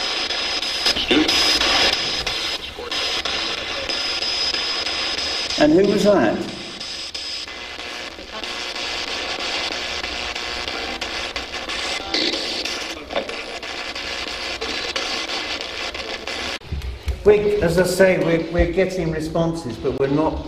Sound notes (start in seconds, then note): 7.3 static buzzing